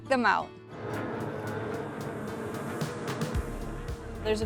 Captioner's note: powerboats revving